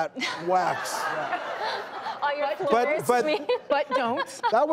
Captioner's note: audience laughing